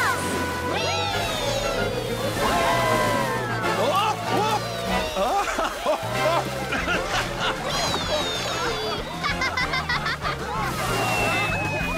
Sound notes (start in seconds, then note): 6.5 laughing; 10.1 giggling